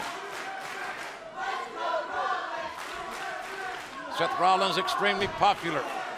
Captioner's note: crowd cheering